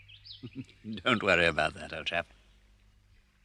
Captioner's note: chuckles